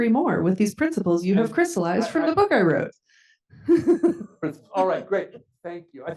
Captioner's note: chuckles